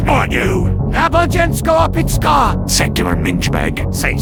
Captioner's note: in Czech